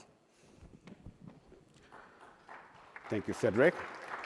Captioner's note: applause